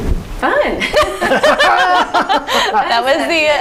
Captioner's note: group laughing